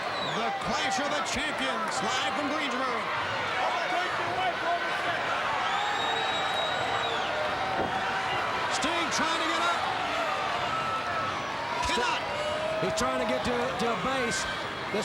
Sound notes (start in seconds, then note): 3.7 crowd cheering; 5.0 crowd whistling